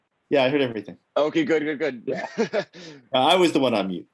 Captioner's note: laughs